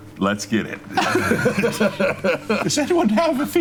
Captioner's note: laughing